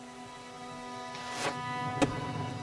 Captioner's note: arrow striking